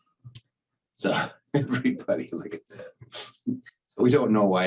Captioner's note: chuckles